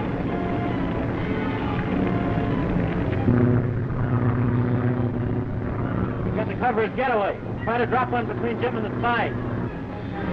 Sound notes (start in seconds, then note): 3.4 engines droning